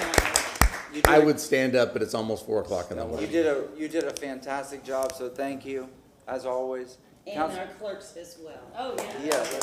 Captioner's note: applause